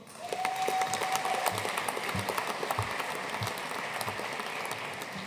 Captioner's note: audience cheering and applauding